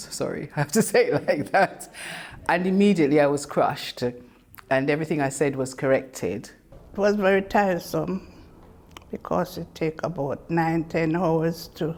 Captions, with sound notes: Sorry, I have to say it like that. (laughs) And immediately I was crushed, and everything I said was corrected. - It was very tiresome, because it take about nine, 10 hours